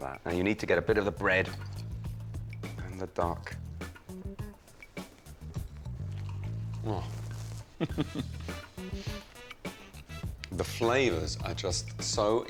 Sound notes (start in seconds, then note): 3.6 gentle upbeat music; 7.6 chuckles